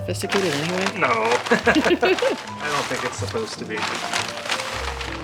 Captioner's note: laughter